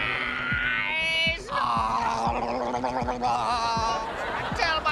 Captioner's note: chokes, gurgles